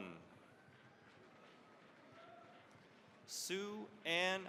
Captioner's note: cheering, applause